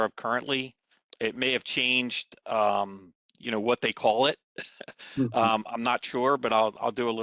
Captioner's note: laughter